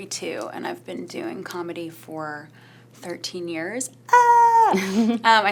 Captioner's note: squeals